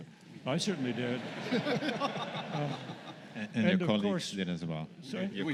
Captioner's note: laughter